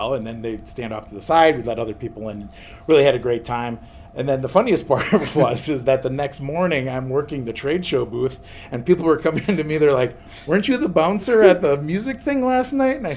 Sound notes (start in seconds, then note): 4.9 both laugh